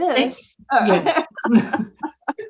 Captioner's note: all laugh